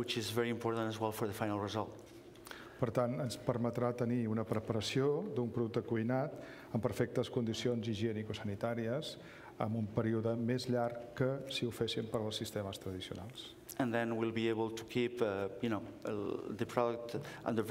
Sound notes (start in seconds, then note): 7.5 speaking catalan